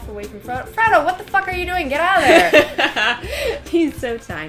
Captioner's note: laughter